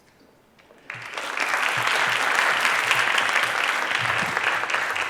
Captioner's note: applause